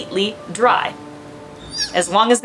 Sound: quiet rainfall sound; background music; sea otter pup, Taz, vocalizing

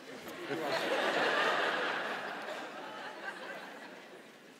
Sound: laughing

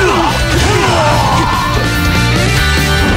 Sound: fatal scream

